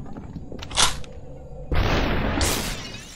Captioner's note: gun crunching; gunshot firing